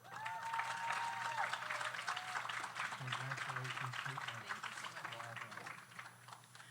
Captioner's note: audience cheers; audience applauds